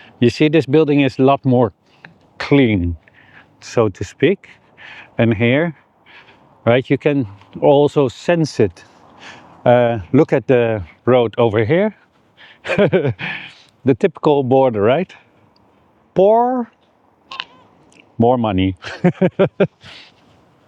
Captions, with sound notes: you see this building is a lot more clean, so to speak. And here, right, you can also sense it. Look at the road over here. (laughs) The typical border, right? Poor, more money.